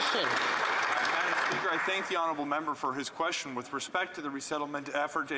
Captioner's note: some Applause